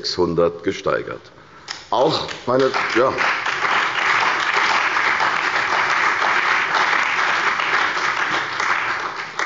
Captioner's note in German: Beifall bei der CDU und dem BÜNDNIS 90/DIE GRÜNEN